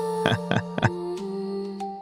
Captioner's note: laughs